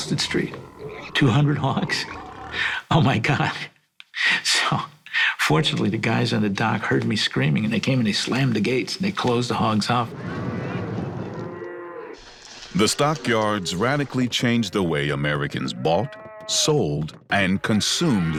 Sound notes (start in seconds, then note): 0.0 laughs; 11.0 cows mooing